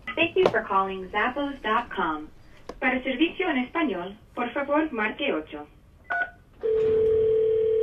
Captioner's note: Spanish